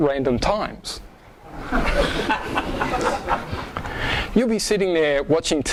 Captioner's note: audience laughs